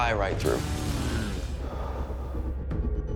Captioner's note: exhales